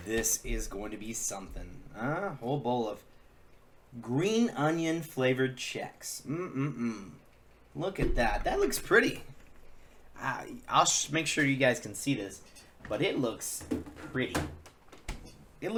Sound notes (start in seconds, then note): 6.2 mmm sounds